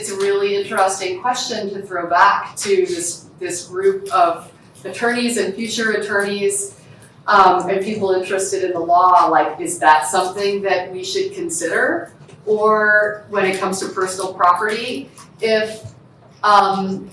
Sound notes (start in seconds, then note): none